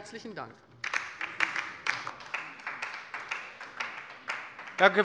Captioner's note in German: Beifall bei der LINKEN